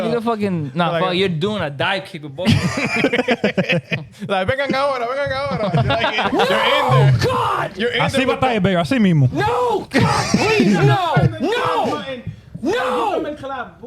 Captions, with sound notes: You're a fucking, nah, you're doing a dive keeper, bro. (Laughing) (Speaking In Foreign Language) Oh, God! I see my baby, I see Mimo. No, God, please, no, no, no!